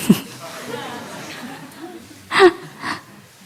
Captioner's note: audience laughs